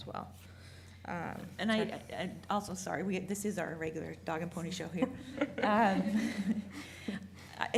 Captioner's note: laughing